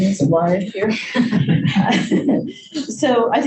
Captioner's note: group laughs